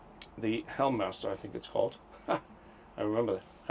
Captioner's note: laughs